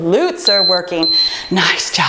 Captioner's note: timer beeping